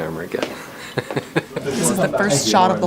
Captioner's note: laughing